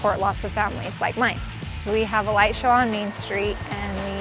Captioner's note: engine Rumble